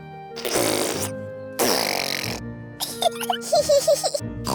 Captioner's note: sputtering; both giggling